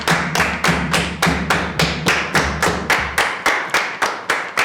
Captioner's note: crowd stomping their feet